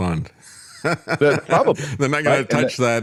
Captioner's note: laughs